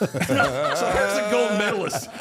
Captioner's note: all laughing